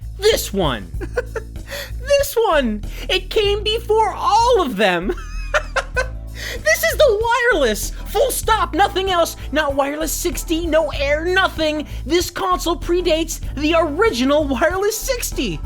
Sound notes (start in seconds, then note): 1.0 chuckle; 5.0 laughter